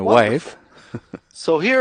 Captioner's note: laughs